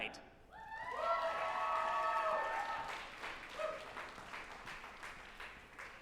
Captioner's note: group applauding and cheering